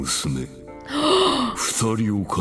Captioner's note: gasps